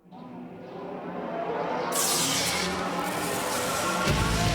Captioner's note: eerie whirring